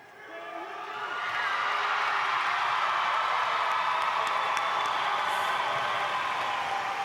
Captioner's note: audience applauding